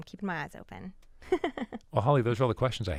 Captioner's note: laughing